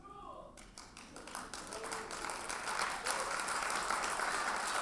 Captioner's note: audience applauds